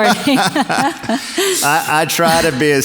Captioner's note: both laugh